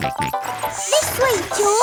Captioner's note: george snorts